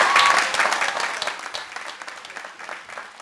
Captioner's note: applause